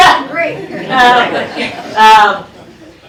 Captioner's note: laughter